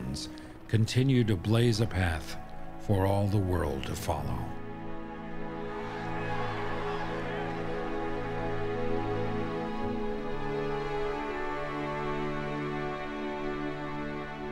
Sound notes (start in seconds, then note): 5.3 crowd cheering; 8.9 orchestral music continues